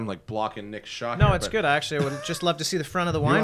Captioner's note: laughter